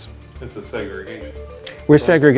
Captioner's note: voiceover